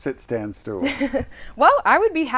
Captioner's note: chuckles